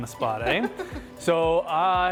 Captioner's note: laughs